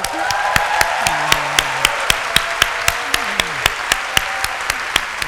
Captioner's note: applause